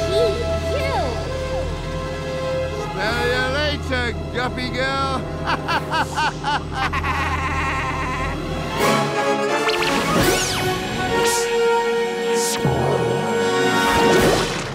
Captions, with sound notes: Pee eww! Smell ya later, Guppy Girl! [evil laugh]